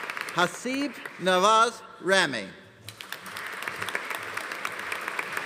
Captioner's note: audience applauding